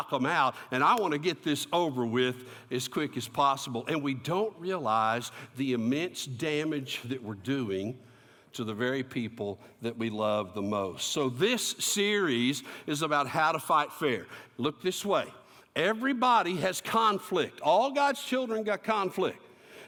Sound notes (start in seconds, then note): none